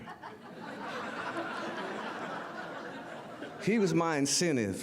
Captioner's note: audience laughter